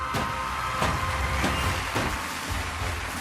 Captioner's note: crowd cheering